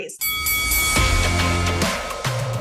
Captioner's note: boxing match bell ringing; triumphant music